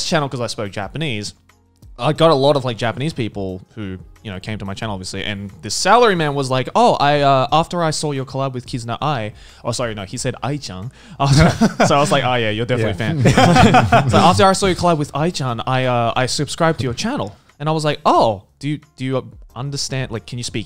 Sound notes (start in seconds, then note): 10.8 speaks Japanese; 11.2 laughs; 12.8 men laughing